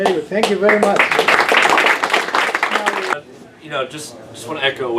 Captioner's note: applause